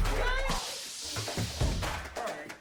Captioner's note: electric shock